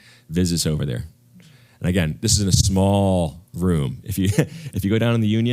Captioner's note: laugh